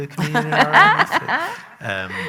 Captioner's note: loud laughter